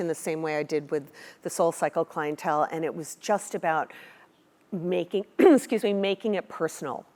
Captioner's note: cough